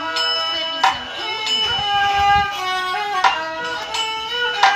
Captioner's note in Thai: ปรบมือ